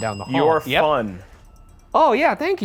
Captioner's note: bell dinging